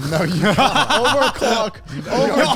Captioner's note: laugh